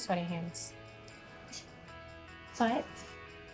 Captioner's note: scoffs